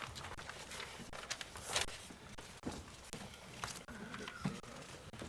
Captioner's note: papers rustling